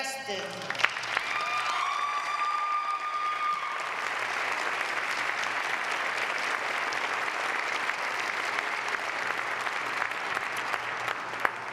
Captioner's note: applause